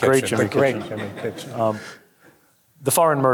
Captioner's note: audience chuckling